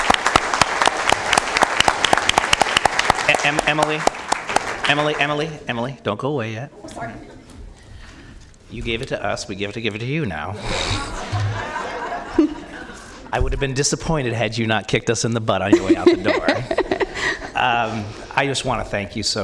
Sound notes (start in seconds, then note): 5.3 applause